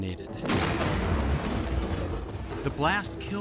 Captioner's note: loud explosion